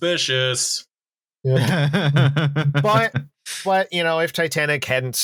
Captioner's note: laughs